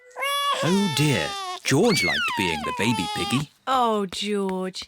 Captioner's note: bawls